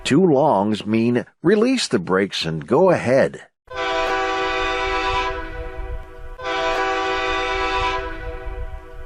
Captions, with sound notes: Two longs mean release the brakes and go ahead. (horn blasts)